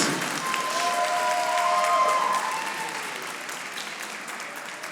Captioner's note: audience applauding